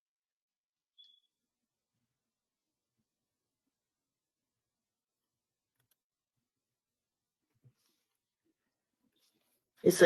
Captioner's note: 9 seconds pause